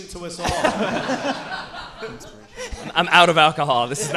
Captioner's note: audience and hosts laughing